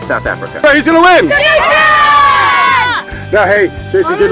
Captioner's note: everyone yells out their pick